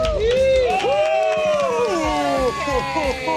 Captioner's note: all cheering